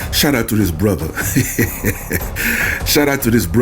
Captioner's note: laughter